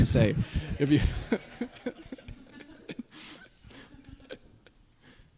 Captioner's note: laughter